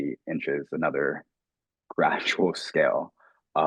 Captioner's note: chuckling